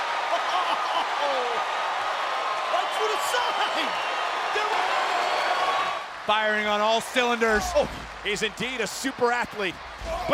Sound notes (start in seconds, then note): 4.0 crowd cheering